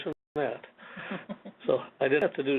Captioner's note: chuckles